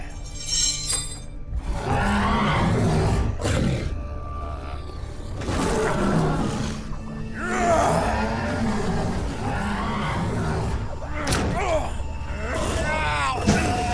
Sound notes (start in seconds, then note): 0.0 chains rattling; 1.8 Dweller growling; 7.4 Brocheet groaning